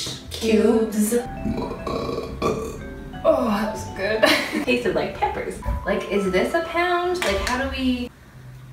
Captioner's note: belches